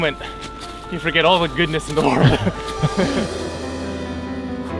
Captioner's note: both laugh